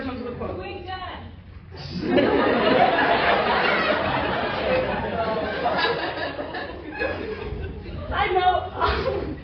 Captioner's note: laughter